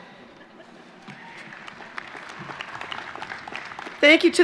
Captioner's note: chuckles and applause